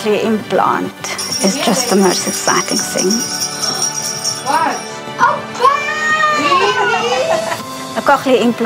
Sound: bells jingle

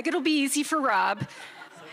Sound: chuckles

